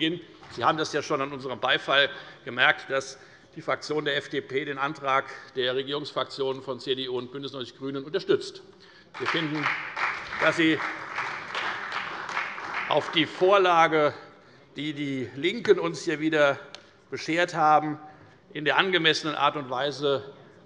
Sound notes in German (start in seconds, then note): 9.1 Beifall bei der FDP und der CDU